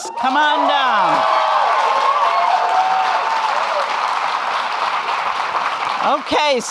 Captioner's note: audience clapping and cheering